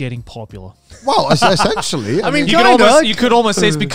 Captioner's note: laughing